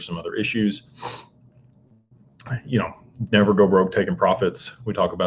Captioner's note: snorts